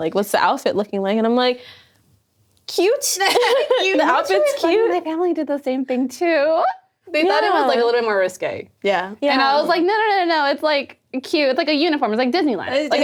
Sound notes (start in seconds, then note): 3.6 laughing